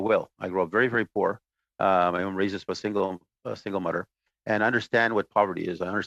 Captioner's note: speaking Indigenous Language